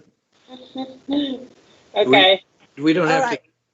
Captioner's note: laughs